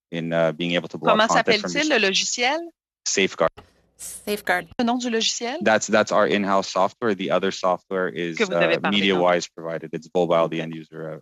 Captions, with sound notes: WE STARTED CREATING SAFEGUARD, WHICH WE BELIEVE IS MUCH MORE EFFECTIVE IN BEING ABLE TO -- [ Speaking French ] >> SAFEGUARD. THAT'S OUR IN-HOUSE SOFTWARE.